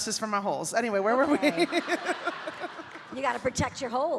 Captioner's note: audience laughing